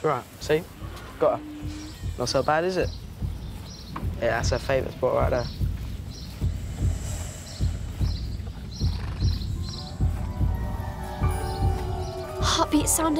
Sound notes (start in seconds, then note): 5.7 Jess's heart beats loudly